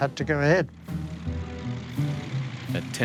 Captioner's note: engine roaring